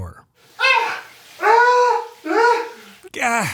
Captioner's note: screaming